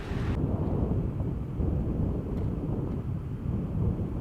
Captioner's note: wind whooshing